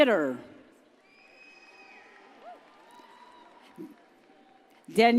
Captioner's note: audience cheers